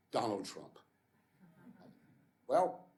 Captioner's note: laughter